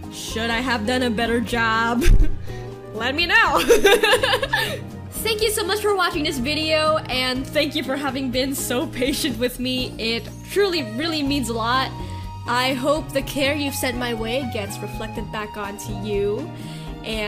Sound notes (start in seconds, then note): 3.6 laughs